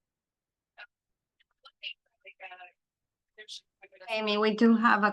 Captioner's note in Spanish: conversación confusa